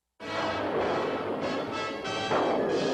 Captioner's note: thunderclap